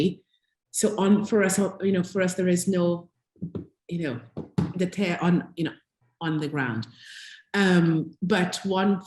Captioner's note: tap tap